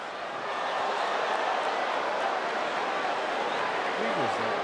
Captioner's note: crowd cheers